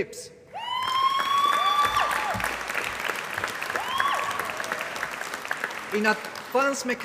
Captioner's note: applause